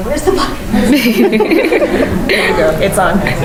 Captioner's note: laugh